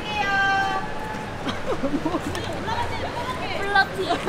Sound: hee hee

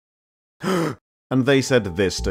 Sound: gasp

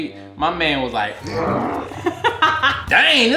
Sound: laughing

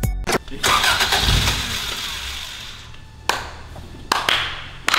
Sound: engine starting; clapping

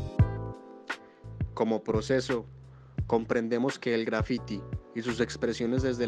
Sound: speaking in foreign language

